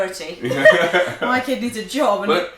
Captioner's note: laughter